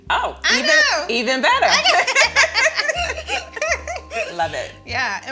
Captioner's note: both laughing